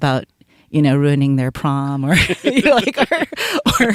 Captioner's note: laughs